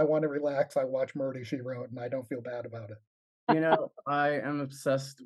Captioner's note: laughs